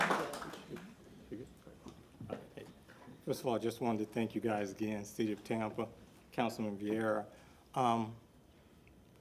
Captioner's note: applause